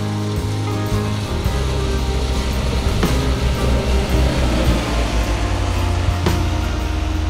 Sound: sound of guided bus passing

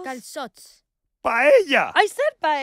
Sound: speaking foreign language

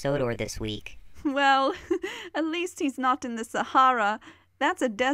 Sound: chuckles

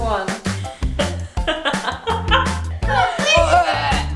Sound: dry retching; laughing; dry retching

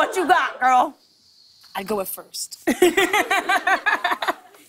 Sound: laughter

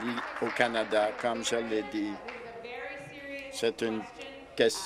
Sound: applause

